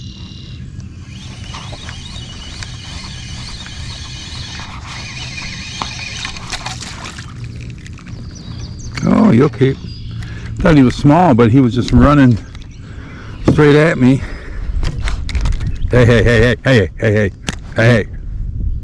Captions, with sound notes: (reel tightening) (fish splashing) Oh you'll keep! I thought he was small but he was just running straight at me. Hey, Hey. Hey. Hey. Hey, Hey, Hey, Hey.